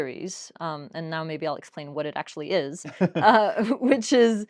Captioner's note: laughs